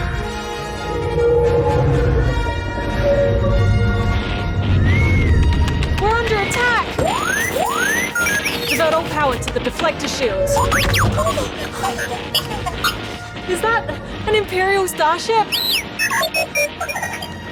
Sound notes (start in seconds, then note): 6.9 robot beeps, whirrs; 10.6 beeps, whirrs; 15.4 beeps frantically